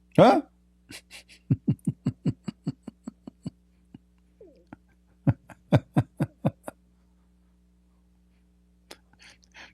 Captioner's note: Ketawa